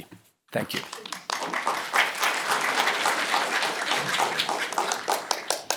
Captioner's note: applause